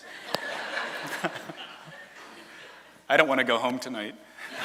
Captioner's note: laughter from audience; laughter from audience